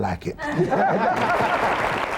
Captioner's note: laughter; applause